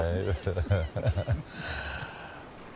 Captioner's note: laughter